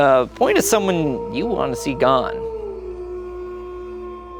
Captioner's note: wolf howling